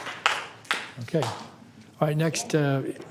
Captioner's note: some Applause